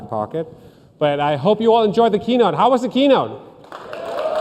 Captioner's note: cheers and applause